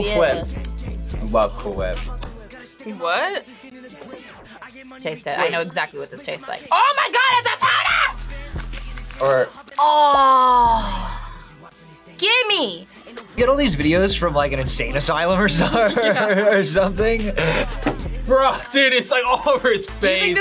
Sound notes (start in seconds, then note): 15.3 laughs